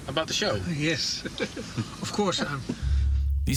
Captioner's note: chuckles